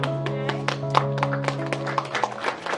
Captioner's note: applause